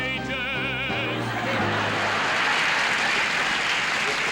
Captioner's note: laughter